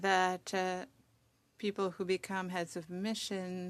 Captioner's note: speaking French